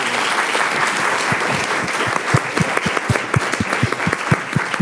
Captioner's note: audience applauding